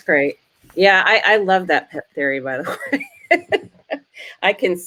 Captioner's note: laughs